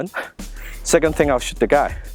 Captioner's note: laughs